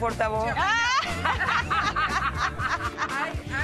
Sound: laughter

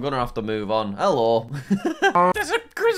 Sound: laughs

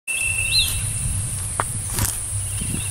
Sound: footsteps

